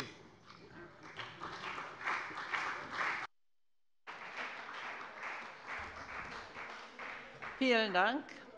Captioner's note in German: Beifall bei der CDU und dem BÜNDNIS 90/DIE GRÜNEN